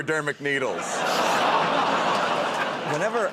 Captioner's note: laughter